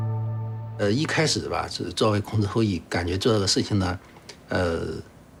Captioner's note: hablan un idioma extranjero